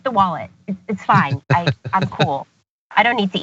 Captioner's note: laugh